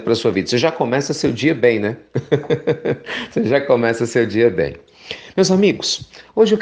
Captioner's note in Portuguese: risos